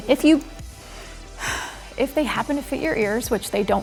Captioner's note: sighs